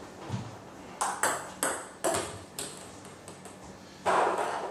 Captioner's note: ball ping pong hitting